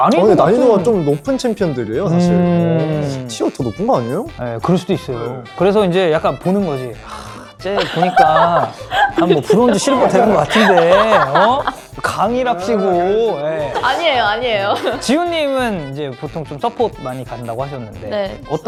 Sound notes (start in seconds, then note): 7.0 sighs